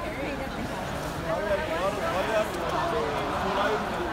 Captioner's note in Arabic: الحشد الثرثرة